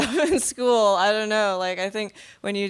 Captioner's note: laughing